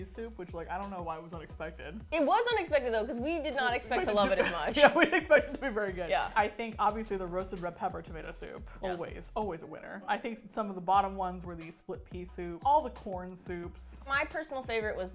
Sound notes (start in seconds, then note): 4.0 laughing; 4.0 laughs